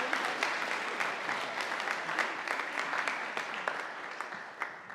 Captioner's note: audience applauding